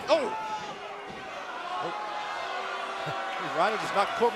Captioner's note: crowd cheering